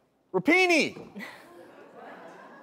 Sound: audience laughs

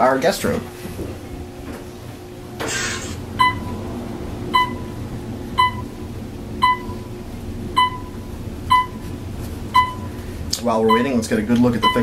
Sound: elevator hums; Otis audible signal chimes

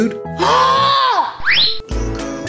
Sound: yelling

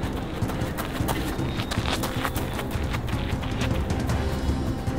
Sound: feet running on gravel path

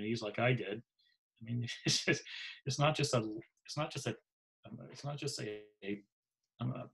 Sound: laughs

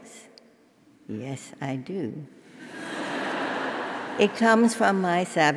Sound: laugh

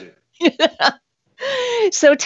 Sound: laughs

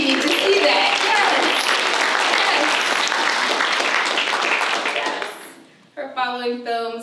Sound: applause

